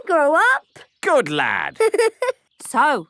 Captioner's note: giggling